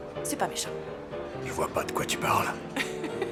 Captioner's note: deep voice; laughing